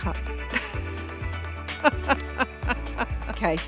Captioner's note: laughing